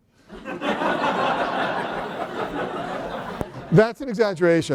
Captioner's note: laughter